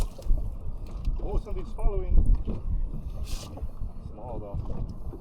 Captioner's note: wind blowing